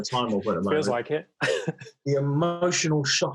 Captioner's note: laughs